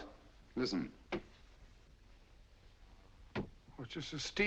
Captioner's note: distant knocking